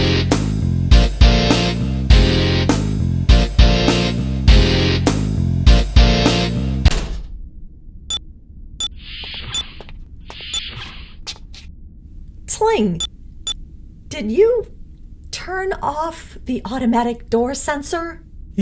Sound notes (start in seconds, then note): 6.8 crash; 6.8 music stops; 8.0 datapad beeps